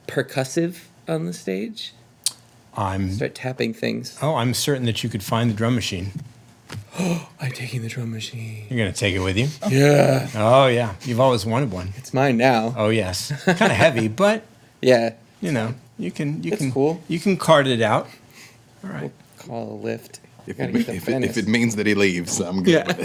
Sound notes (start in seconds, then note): 9.2 gasps; 13.3 laughing; 22.5 laughing